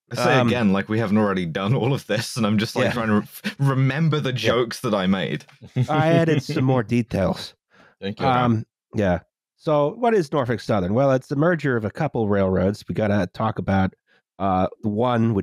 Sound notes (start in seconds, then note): 5.6 laughter